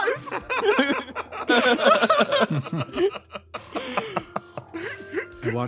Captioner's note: laughs